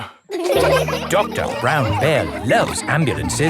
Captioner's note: all laughing